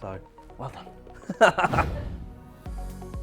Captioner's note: laughing; upbeat music